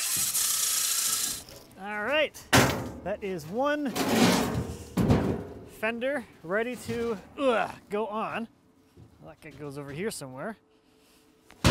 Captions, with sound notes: All right, that is one fender, ready to, (grunts) go on. Feel like it goes over here somewhere.